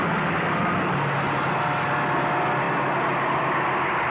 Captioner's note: train roaring